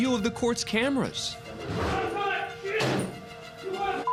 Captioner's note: shouting and thudding